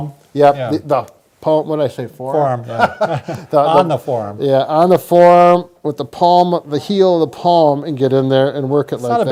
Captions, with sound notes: - Yeah, the palm. What'd I say, forearm? - Forearm. (laughs) On the forearm. - Yeah, on the forearm with the palm, the heel of the palm, and get in there and work it like that.